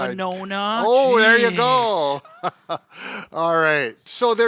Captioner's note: chuckles